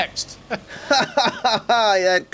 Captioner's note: laughs sarcastically